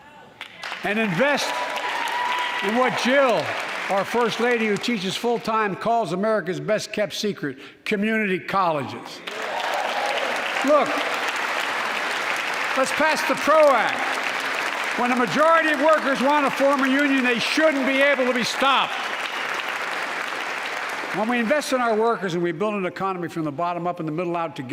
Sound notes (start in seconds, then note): 16.2 applause